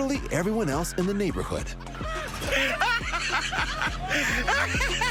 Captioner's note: laughter